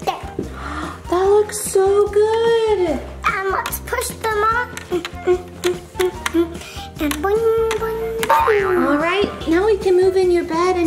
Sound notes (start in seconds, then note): 0.5 gasps; 5.1 tapping